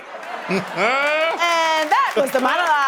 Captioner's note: laughing